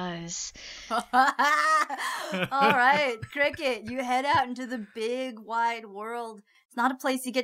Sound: group laughing

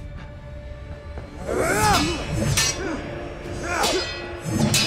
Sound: both grunting

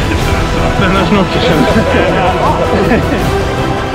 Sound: laugh

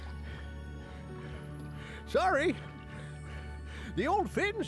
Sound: breathing hard

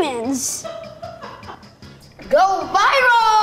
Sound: laughing off camera

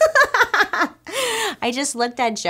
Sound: laughs

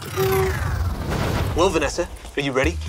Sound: scene whooshes

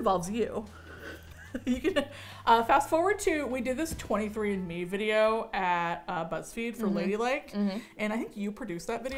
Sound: chuckles

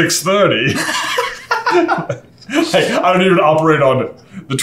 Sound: laughing

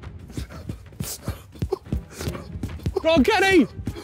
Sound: panting

